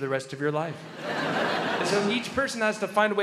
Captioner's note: crowd laughs